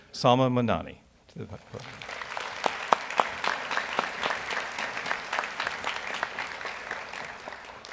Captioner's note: audience applauds